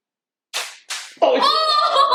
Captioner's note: paper plane crashes; laughter